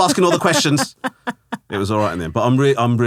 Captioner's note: laughing